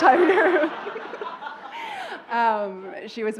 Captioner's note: laughter